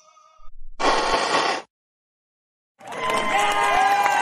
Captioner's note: all blowing; applause and cheering